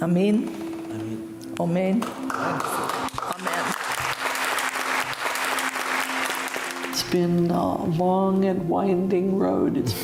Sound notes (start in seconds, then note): 2.2 congregation applauds